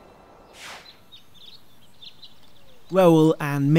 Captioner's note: birds chirping; air whooshing